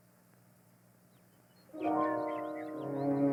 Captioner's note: birds chirping; dramatic music